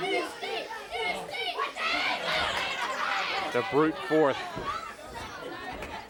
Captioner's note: crowd cheering